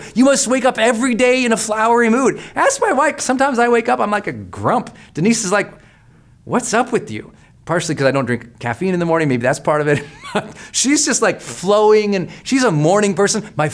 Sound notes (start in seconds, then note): 10.0 laughs